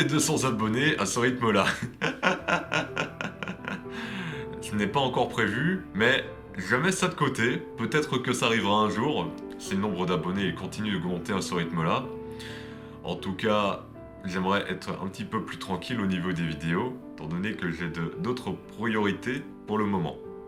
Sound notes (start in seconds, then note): 1.7 laughs